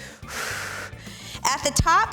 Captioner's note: exhales